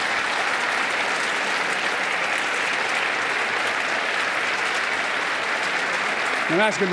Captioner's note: applause